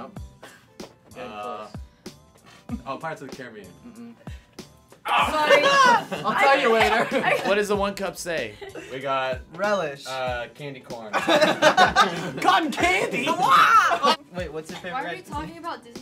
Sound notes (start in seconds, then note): 11.1 laughter